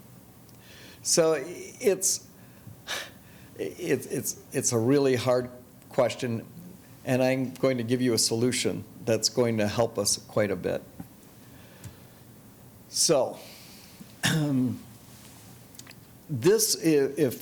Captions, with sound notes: So it's (exhaling), it's a really hard question, and I'm going to give you a solution that's going to help us quite a bit. So, (clearing throat),